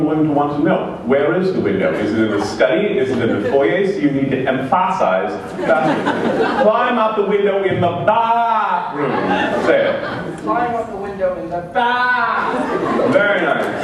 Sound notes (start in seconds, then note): 8.9 laughter